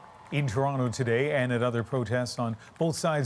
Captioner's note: applause